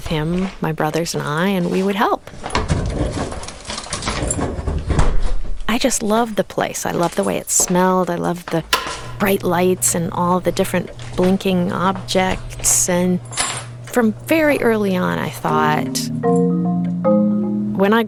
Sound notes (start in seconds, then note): 2.6 equipment clattering; 15.4 light uplifting music